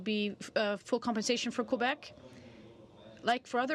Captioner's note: speaking French